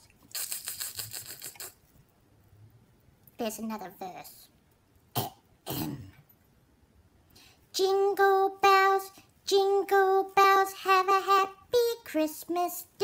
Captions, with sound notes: Dogs just drool but cats are cool and Santa loves us best! There’s another verse (ahem) Jingle bells jingle bells Have a happy Christmas day